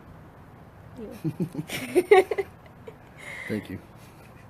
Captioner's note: giggles